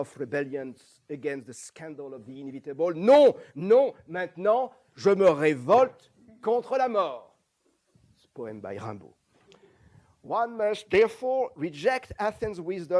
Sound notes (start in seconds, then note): 3.8 non-english